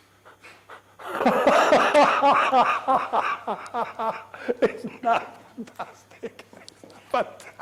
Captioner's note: Joker laugh